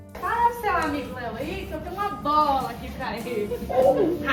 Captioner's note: telling someone off in Portuguese